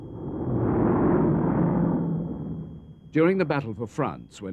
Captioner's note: plane engines rumbling